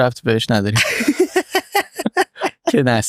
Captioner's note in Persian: خنده